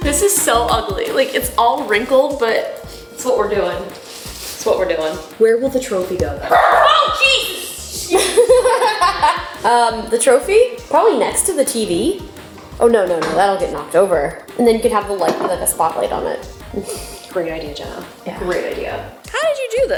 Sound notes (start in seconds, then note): 3.8 plastic crinkling; 6.4 dog bark echoes; 8.0 laughs